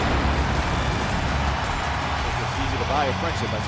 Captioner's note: crowd cheering